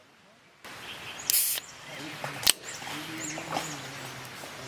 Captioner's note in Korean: 치익- 딸깍!